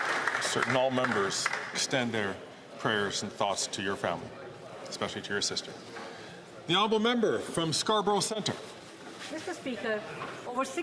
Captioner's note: some Applause